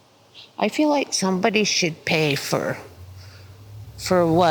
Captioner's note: sniffles